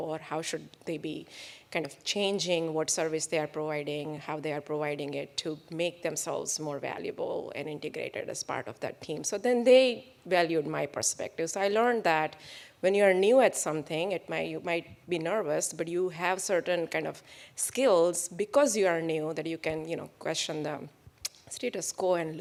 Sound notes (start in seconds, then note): none